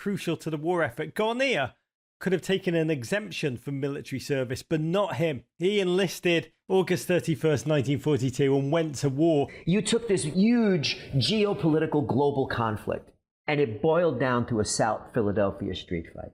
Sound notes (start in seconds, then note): none